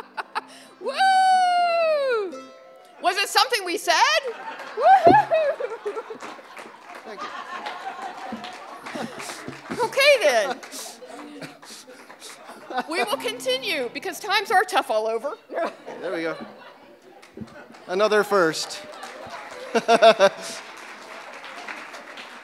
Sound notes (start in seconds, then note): 0.0 laughing; 4.1 audience laughing; 4.2 audience clapping; 19.0 audience clapping